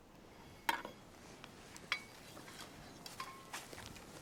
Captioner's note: weapons clank